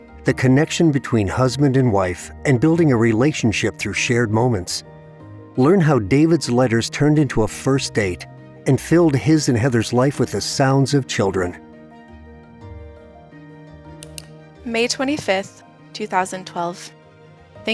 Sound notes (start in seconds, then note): 12.3 gentle music; 12.3 mouse click